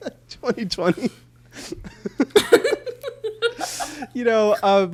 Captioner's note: both laugh